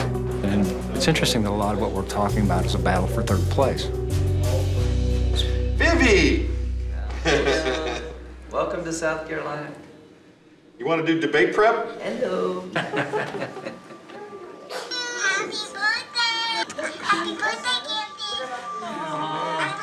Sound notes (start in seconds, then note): 7.1 laughs; 12.7 laughter